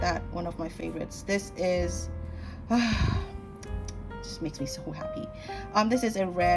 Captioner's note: sigh